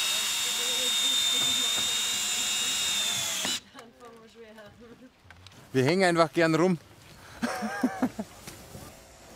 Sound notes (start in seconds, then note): 3.6 quiet babble of voices; 7.4 laughs